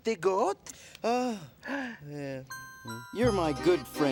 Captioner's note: sighs